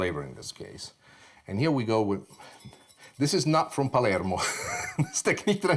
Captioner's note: laughs